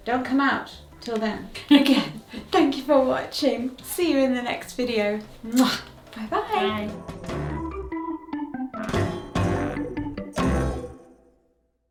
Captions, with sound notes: Don't come out till then. Again, thank you for watching. See you in the next video. (smacks kiss) Bye-bye. - Bye. (funky upbeat music)